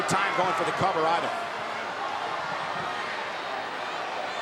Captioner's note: crowd cheering